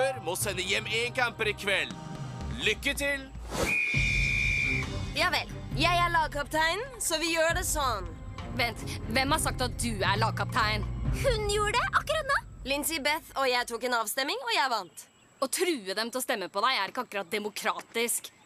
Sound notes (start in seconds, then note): 3.6 blows whistle